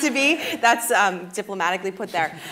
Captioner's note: laughing